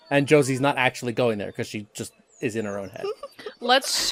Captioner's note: laughter